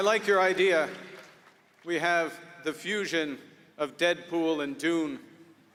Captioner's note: applause